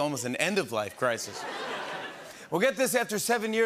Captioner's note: laughter